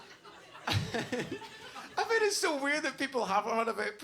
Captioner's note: laughs